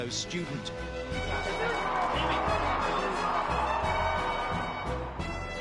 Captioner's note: crowd cheering